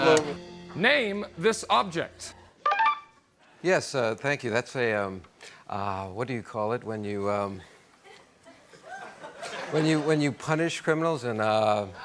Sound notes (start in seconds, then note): 2.6 beeper sound